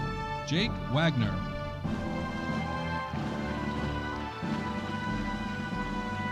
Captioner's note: audience applauding